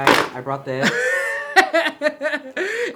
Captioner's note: laughs